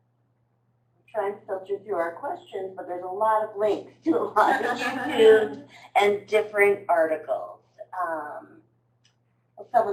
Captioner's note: laughter